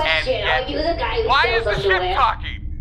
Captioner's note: yelling over Bargie